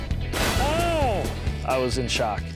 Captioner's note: slab bangs